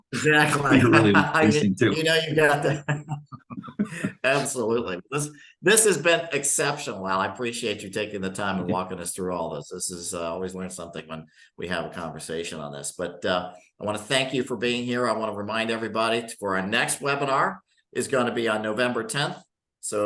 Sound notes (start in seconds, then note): 0.0 laughs; 3.6 chuckling